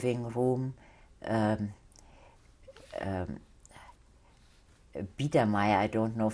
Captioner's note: german